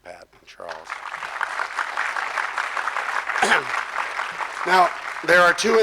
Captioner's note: audience clapping